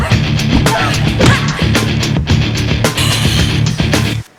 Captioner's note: both grunting